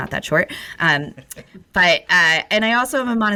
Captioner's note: laughs